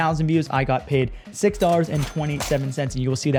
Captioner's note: cash register dings